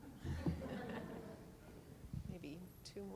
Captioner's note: laughter; voiceover